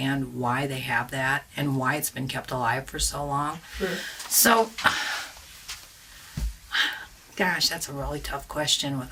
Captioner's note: sighs